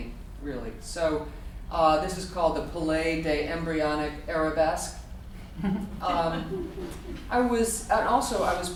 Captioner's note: audience laughter